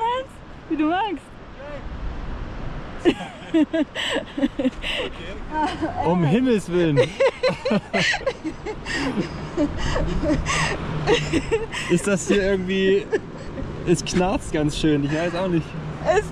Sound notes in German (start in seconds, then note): 5.6 Gelächter